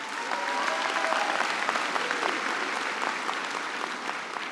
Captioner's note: applause